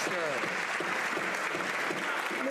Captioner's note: some Applause